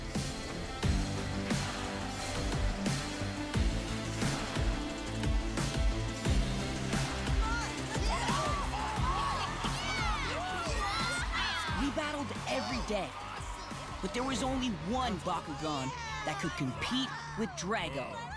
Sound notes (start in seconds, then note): 0.1 epic music; 6.9 crowd cheering